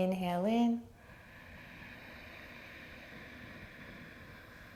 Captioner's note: inhaling